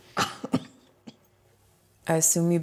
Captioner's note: chuckling